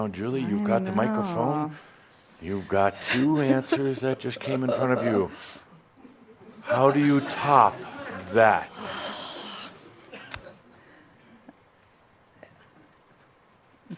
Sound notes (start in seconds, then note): 4.4 she giggles